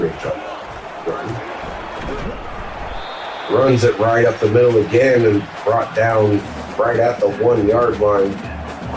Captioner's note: crowd Noises